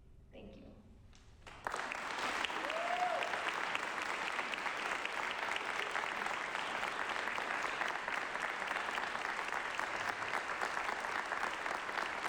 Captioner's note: applause